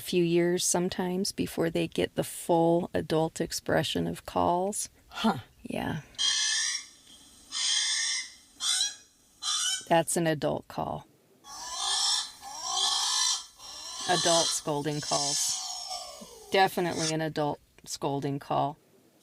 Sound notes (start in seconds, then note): 9.9 ‘Alalā vocalizations, standard; 11.4 ‘Alalā vocalizations, lower pitched and more forceful sounding